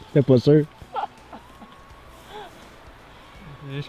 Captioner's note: laughing